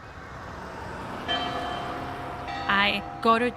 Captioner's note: bells tolling